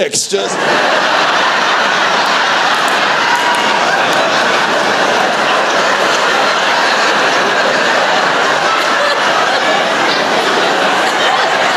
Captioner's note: laughter